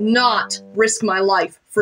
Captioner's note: none